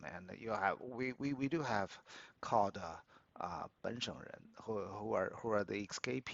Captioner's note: speaks Mandarin